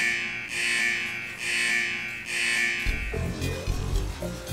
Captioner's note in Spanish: alarma